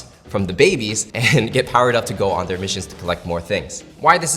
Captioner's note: chuckles